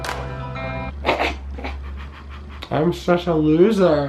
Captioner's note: laughing